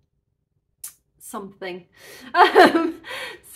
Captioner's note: nervous laugh